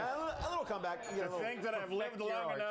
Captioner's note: bell rings